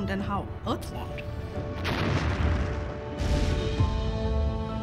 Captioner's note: loud explosion